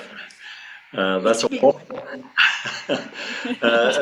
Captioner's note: laughs